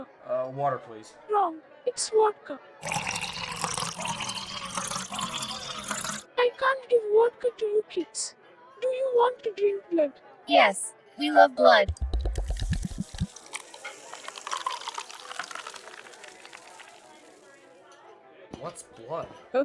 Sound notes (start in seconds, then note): 2.8 filling up glass; 12.0 filling up glass